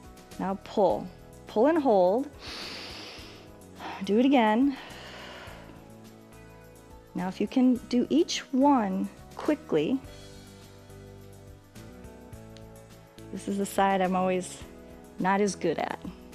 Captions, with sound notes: Now pull, pull and hold. [inhales] Do it again. [exhales] Now if you can do each one quickly. This is the side I'm always not as good at.